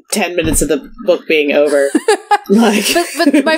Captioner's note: laughs